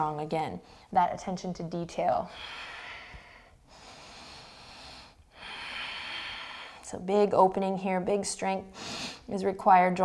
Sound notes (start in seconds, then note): 2.2 deep breathing